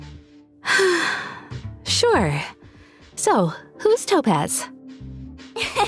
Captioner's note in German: seufz